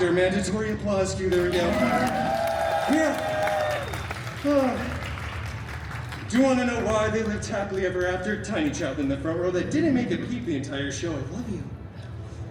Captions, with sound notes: Mandatory applause cue. There we go. [guests cheering and applauding] Yeah. [guests applauding] Do you want to know why they lived happily ever after? Tiny child in the front row that didn’t make a peep the entire show— I love you.